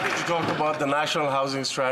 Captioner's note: some Applause